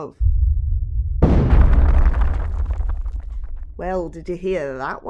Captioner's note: there’s a distant sound of rumbling